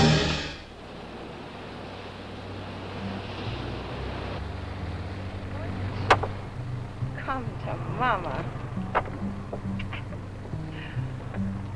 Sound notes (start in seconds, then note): 0.0 water whooshing